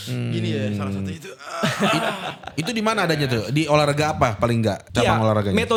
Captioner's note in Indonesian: tertawa